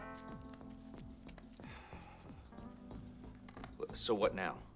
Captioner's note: huffs